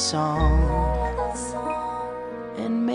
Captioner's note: Pebbles echo last words